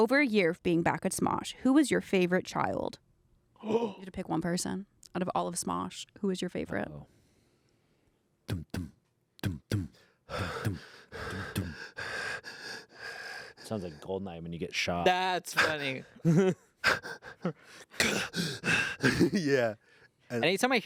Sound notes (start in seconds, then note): 8.5 vocalizes; 9.5 pants; 16.8 pant